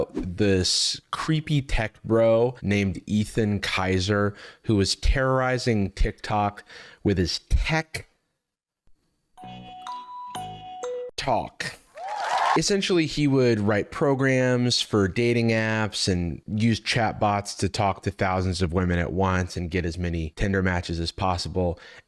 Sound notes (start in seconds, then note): 9.3 thinking music; 11.9 crowd cheering